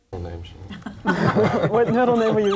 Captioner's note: participants laughing